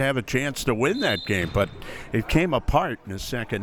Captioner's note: whistle